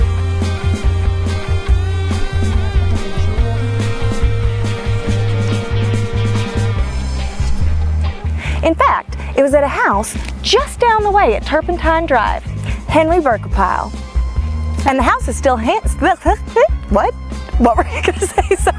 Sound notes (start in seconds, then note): 0.0 upbeat rock music; 3.4 woman whispers